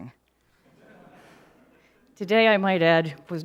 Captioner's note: audience laughing